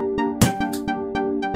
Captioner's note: rubber Stamp Sound